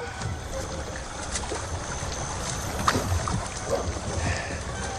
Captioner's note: water lapping